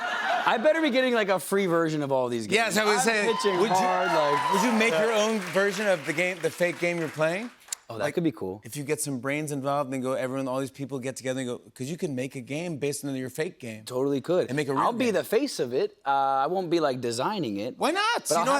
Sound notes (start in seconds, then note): 2.7 cheers and applause